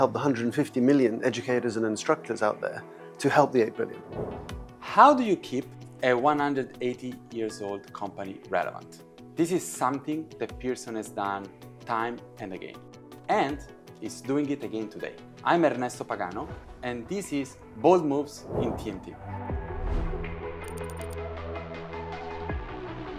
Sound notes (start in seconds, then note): 3.6 upbeat music; 4.0 air whooshing; 20.4 upbeat music continues